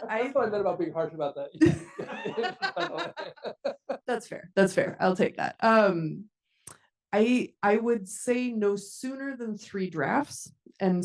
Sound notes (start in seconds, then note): 1.6 attendees laughing